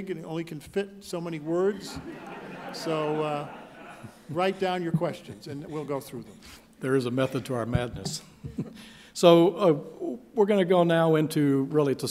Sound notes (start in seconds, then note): 1.5 laughing